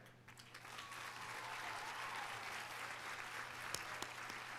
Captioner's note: audience applauding